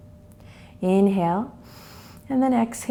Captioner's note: inhales